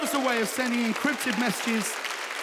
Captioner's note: audience cheering